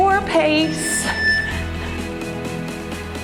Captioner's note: timer beeps; cheerful music